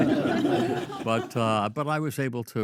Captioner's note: all laugh